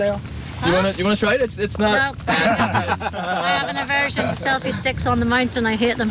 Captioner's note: laugh